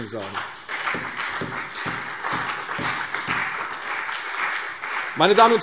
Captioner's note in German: Beifall CDU und BÜNDNIS 90/DIE GRÜNEN